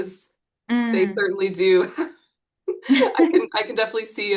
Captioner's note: chuckles